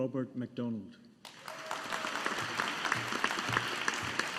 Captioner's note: audience applauding